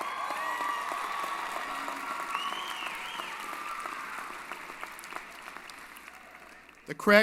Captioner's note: applause & Cheering